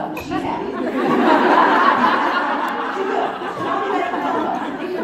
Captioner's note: crowd Laughing